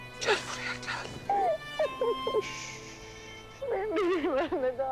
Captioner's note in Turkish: Ağlıyor